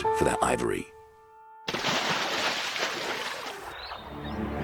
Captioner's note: water splashing; birds chirping